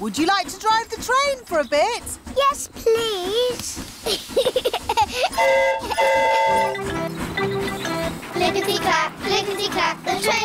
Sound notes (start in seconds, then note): 4.0 giggles; 5.3 train horn toots